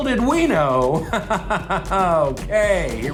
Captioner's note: laughs sarcastically